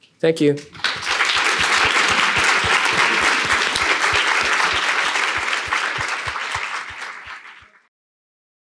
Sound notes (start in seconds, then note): 0.7 applause